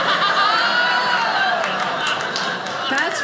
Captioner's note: audience laughing